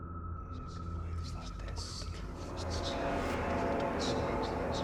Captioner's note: ghostly voices whispering